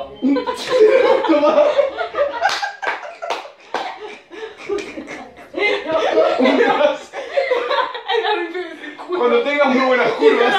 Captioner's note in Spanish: Risas, aplausos y palabras inentendibles